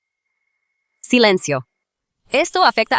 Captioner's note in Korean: 침묵